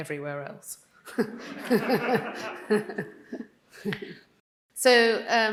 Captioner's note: Jenny and audience laughing